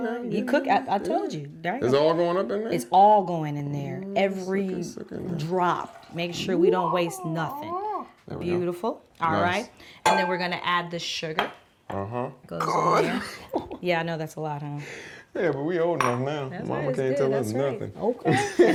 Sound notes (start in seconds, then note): 13.2 chuckles; 18.3 chuckles